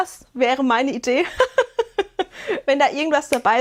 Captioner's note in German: gelächter